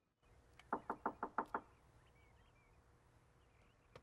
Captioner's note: Erik knocking